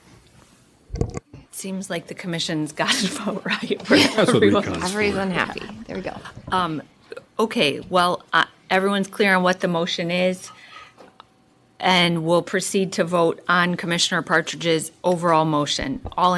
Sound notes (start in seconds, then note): 3.8 laughter